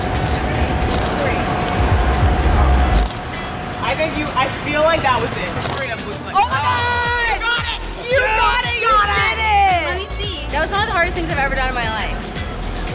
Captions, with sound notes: - I think you, I feel like that was it. - (cheering) Oh my God. - You got it. - You got it, you did it. - Let me see. That was one of the hardest things I've ever done in my entire life.